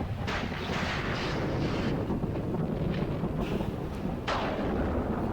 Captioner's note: thunder rumbling